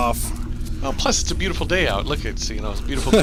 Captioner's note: laughs